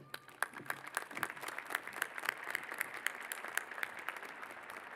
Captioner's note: applause